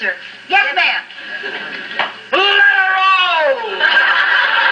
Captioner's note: laughter from audience